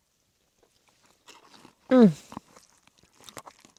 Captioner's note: food crunches